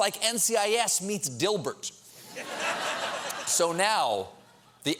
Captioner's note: laughter